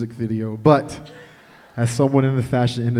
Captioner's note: chuckling